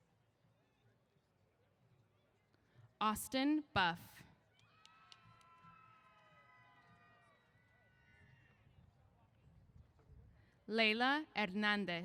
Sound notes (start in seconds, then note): 4.6 cheers